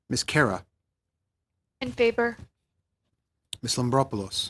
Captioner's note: speaking French